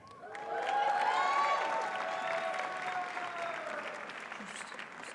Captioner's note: audience cheers and applauds